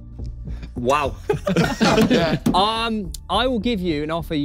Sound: everyone laughing

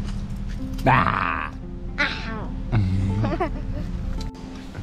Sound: growls

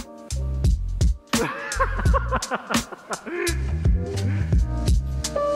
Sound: laughing

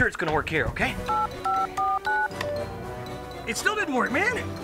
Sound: numbers dialing

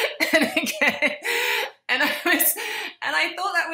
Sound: laughs

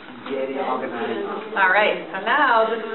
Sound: voiceover

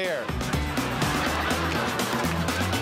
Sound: laughter

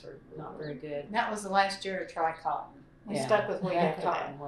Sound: laughter

